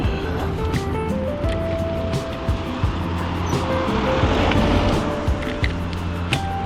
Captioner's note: wind Blowing